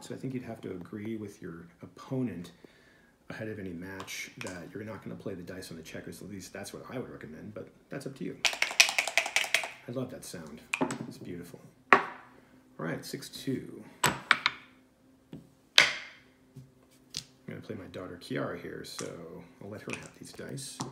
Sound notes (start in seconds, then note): 8.4 dice shaking